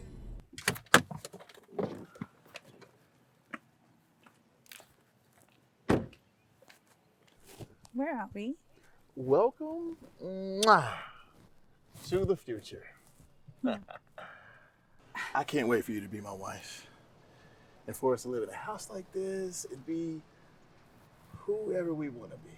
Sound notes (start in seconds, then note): 0.2 car door slamming; 0.2 car doors creaking; 9.7 lips smacking